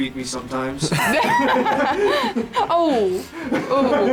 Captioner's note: laughter